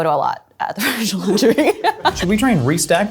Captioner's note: laughs